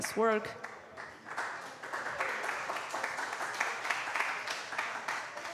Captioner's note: applause